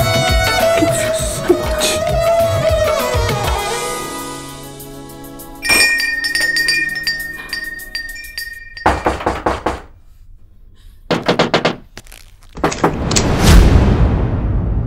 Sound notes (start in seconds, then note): 5.6 Doorbell rings; 11.1 Knock on the door